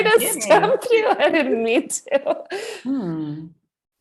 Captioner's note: laughs